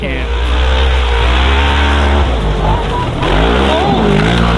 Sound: engine roars

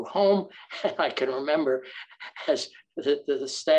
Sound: chuckles

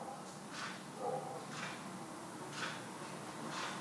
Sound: distant dog barking

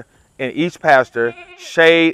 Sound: goat bleating

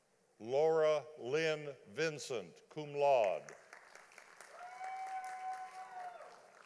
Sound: audience applauding

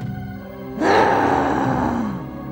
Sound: grunts

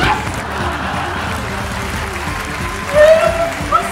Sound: audience laughter

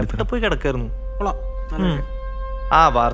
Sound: siren wailing

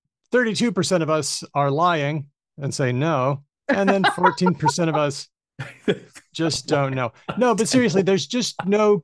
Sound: laughs

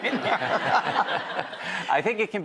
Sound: laughing

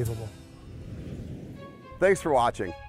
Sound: whooshing

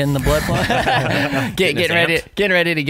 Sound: laughing

